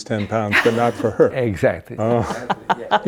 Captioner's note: laughing